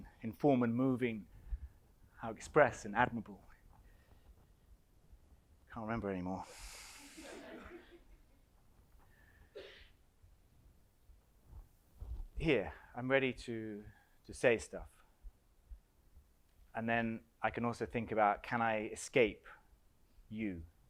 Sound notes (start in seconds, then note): 7.2 audience laughs